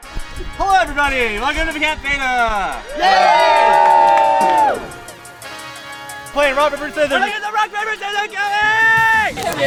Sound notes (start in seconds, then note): 2.8 loud cheers from crowd; 9.4 loud chattering